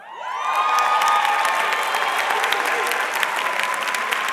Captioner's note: audience cheering